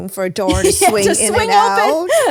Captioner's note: laughs